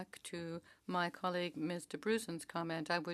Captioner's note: speaking French